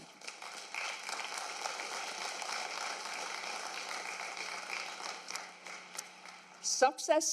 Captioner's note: applause